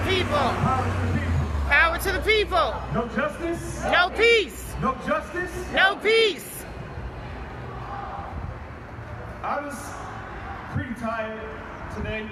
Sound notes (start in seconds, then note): 0.0 crowd responds; 3.6 crowd